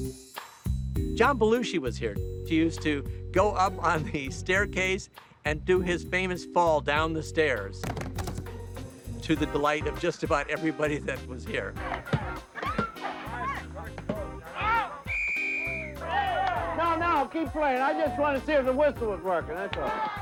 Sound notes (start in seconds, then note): 12.1 yells; 14.6 whistle blowing; 15.3 cheering